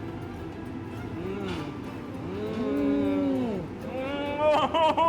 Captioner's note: moaning